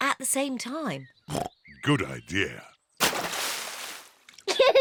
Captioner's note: oinks